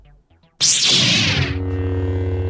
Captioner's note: lightsaber turns on; lightsaber hums